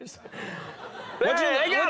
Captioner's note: crowd laughing